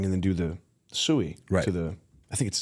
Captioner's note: none